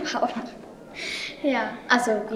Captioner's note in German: lacht